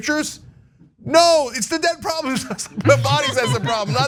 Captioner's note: laugh